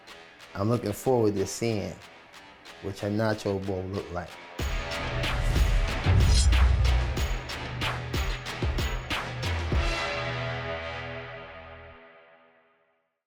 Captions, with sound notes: I'm looking forward to seeing what your nacho bowl look like. (intense music) (knife swishes)